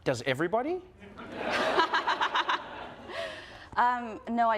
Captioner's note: audience and Jennette laugh